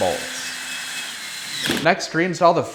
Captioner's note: drill whirring